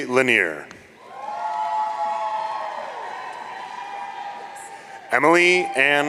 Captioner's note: audience cheering